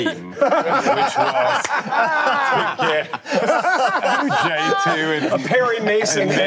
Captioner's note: group laughing